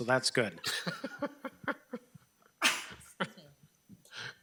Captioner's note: people laughing